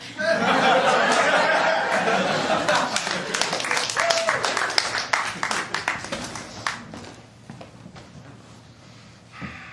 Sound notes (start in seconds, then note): 0.1 laughter; 1.8 applause